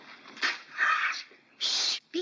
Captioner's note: Mere squawks